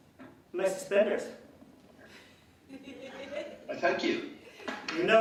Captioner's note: laughing